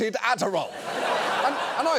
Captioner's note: audience laughs